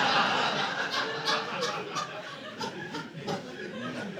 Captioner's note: audience laughing